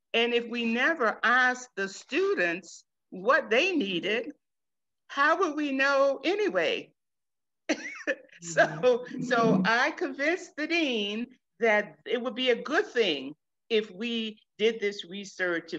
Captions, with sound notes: And if we never ask the students what they needed, how would we know anyway? (chuckles) So, I convinced the Dean, that it would be a good thing, if we did this research,